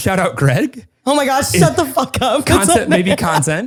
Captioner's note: laughs